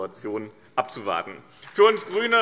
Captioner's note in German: Beifall BÜNDNIS 90/DIE GRÜNEN und CDU